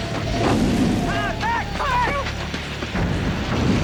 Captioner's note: fire rumbling